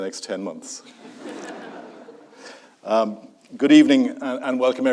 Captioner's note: audience laughs